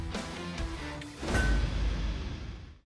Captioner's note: clang